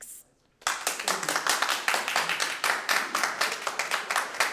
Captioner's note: audience applauds